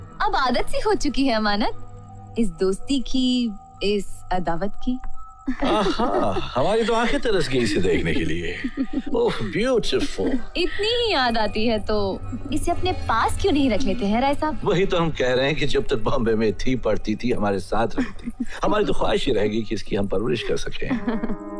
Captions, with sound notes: I'm used to this friendship...this feast, Amanat. [Laughs] I was craving your presence. Beautiful. If you miss her so much, why don't you keep her close to you, Mr. Rai? That's what I'm saying. When she was studying in Mumbai.. ..she should have lived with us. It's been a dream to have raised her.